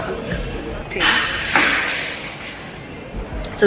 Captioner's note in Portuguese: glass breaking